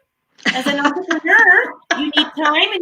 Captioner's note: laughing